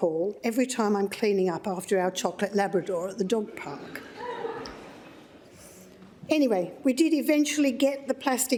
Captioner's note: laughter